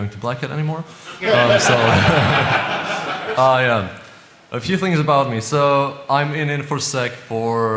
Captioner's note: laughter